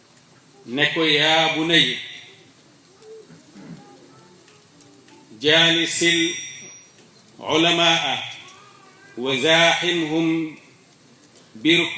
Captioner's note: quote in Arabic